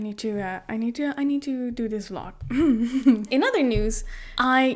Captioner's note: clears throat